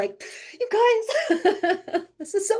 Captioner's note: laughing